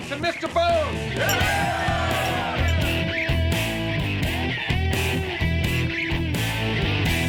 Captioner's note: pilots cheering; upbeat music